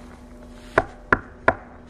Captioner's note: knock-knock-knock